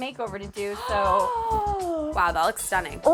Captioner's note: gasps